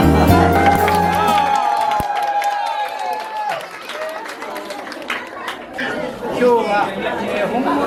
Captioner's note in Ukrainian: оплески